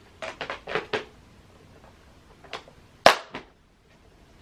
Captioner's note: tops clicking shut